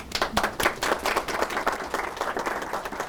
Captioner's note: applause